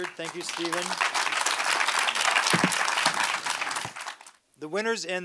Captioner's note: audience applauds